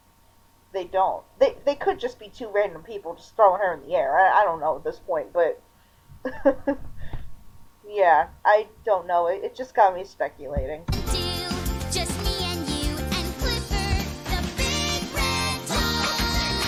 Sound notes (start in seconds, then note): 6.2 laughter